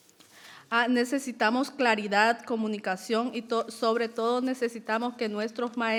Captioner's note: speaking in foreign language